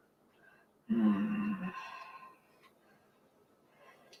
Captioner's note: groaning sound